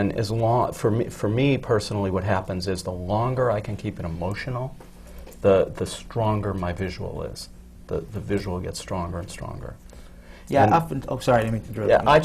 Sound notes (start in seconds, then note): none